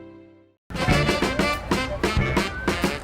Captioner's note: police sirens